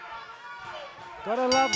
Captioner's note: bell ringing